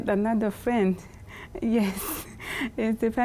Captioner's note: chuckles